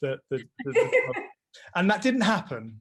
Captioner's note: laughs